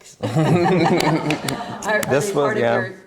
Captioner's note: all laughing